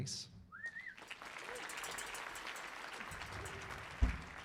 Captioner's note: audience applauding